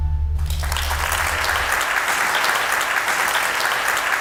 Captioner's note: audience clap